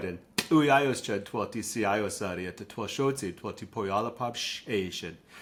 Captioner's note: speaking in Lushootseed language